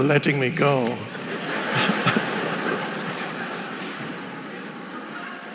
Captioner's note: audience laughing